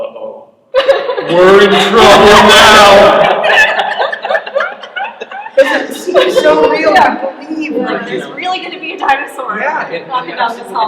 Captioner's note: laughter